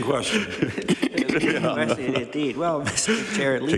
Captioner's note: laughter